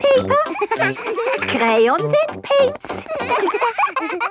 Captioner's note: all laughing